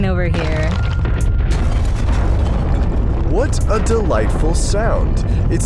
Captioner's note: crash